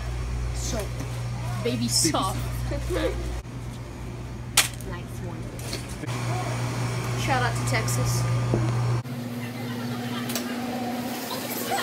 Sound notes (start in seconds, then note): 4.3 sound of item landing in cart